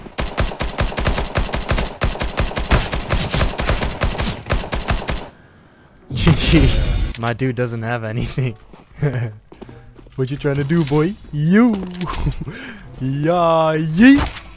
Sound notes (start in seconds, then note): 8.9 laughs